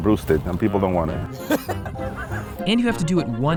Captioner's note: laughing